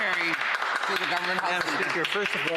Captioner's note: some Applause